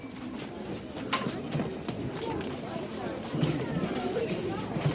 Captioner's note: children chatting